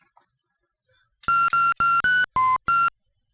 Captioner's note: dialing phone